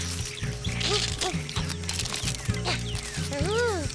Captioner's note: munch munch